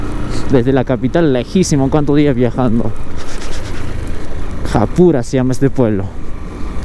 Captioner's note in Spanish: resoplido